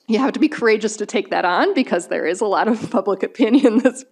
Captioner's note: chuckles